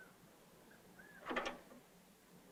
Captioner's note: clank